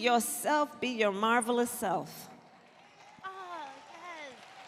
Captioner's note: applause